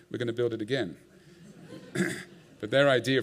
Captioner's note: laughter